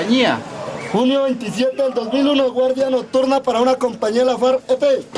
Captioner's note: audio in Spanish